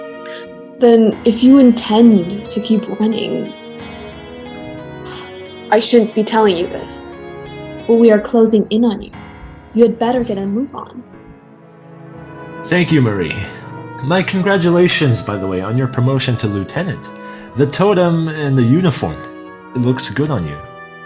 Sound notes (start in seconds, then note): 5.0 sigh number five